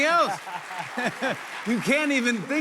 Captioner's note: both laugh